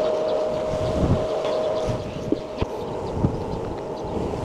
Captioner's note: wind blowing